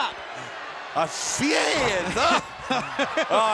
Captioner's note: Dusty exclaims; Tony laughs